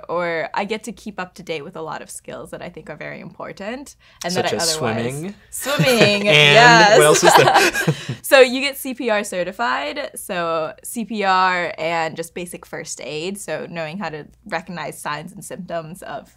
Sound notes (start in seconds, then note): 7.4 laughter